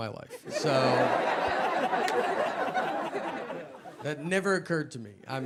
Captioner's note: audience laughing